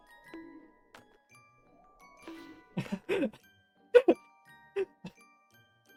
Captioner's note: laughing